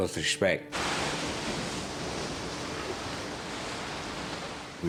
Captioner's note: water surges